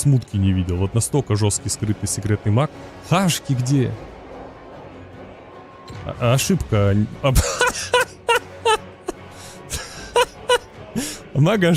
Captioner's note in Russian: смех